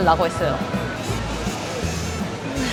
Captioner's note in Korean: 스읍